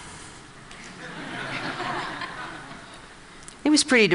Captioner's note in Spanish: Risas